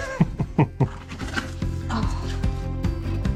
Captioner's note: laughs; upbeat music